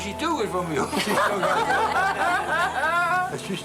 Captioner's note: laughter